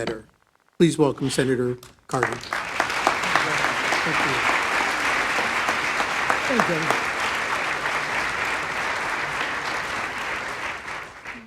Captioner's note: applause